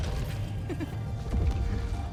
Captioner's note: laugh